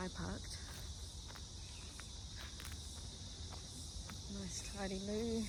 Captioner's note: footsteps crunch on dried seeds and fruit from the trees above